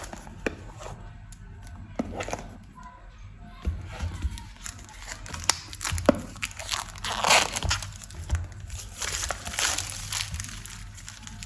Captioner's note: unrapping sound